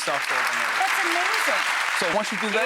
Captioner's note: audience applauds